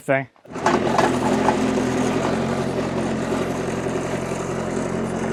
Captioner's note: machine whirring